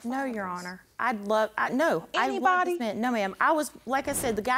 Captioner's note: stammering